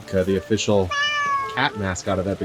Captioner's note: cat meowing